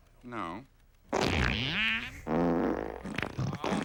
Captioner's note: farting sounds